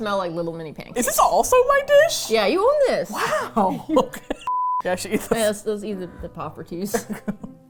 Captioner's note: laughs